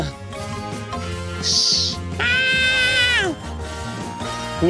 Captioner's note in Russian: Антон мяукает